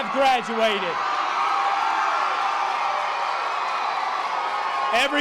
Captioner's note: members of the audience cheering